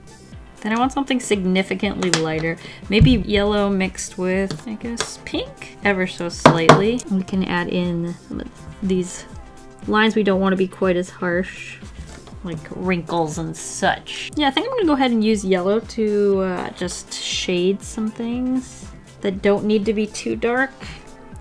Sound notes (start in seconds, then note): 6.4 tap, tap